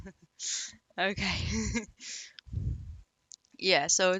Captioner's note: laughs